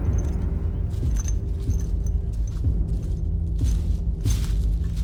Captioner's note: leaves crunching